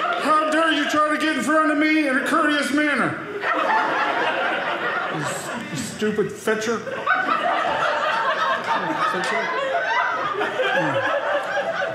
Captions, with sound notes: "How dare you try to get "in front of me "in a courteous manner. (audience laughing) "This stupid fetcher." (audience laughing)